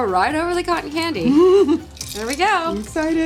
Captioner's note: wailing